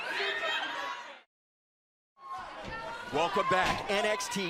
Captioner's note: crowd chatter